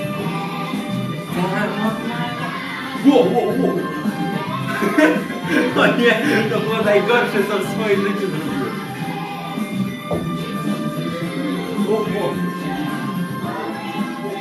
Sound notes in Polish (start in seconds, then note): 4.6 śmiech